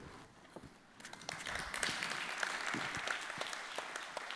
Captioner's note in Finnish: Applause